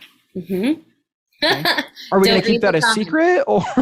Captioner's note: chuckles